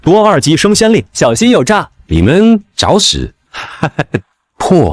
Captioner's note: manic laughter